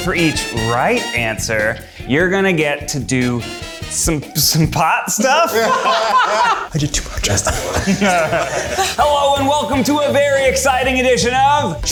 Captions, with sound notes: - For each right answer, you're gonna get to do some pot stuff. (all laughing) - I did too much, that's a lot. - Hello and welcome to a very exciting edition of-